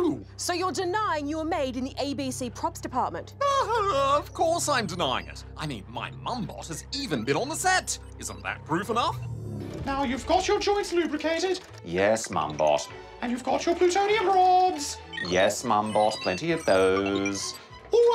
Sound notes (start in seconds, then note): 3.4 laughs